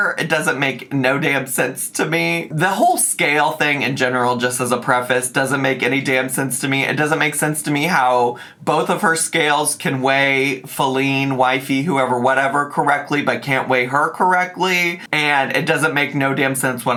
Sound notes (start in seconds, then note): none